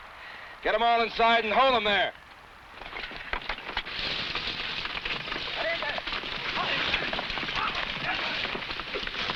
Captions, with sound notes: - Get 'em all inside and hold 'em there! (men shouting)